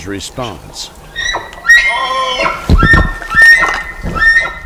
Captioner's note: loud elk bugle